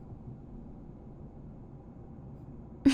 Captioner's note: giggle